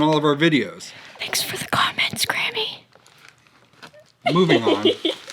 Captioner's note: whispers